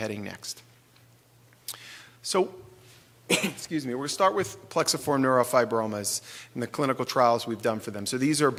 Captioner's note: sneeze